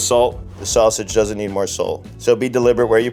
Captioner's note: note swooshes